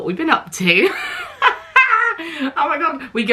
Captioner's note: laughs